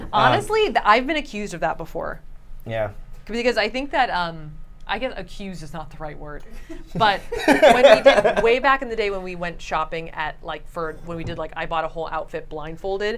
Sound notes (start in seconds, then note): 6.6 laughs